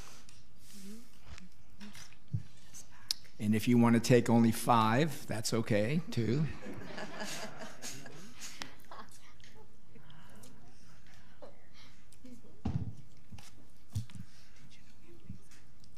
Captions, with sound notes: And if you wanna take only five, that's okay too. (laughing)